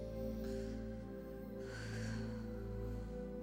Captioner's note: sighs